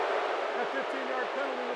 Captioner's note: booing